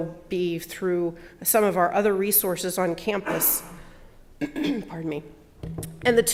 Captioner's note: cough